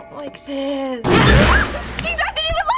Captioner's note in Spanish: ruge